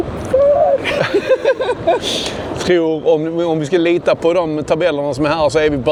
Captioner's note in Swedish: skratt